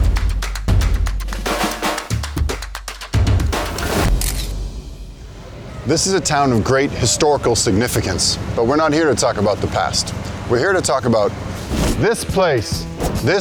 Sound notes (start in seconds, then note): 4.1 camera shuttering